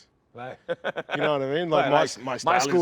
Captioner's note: laughs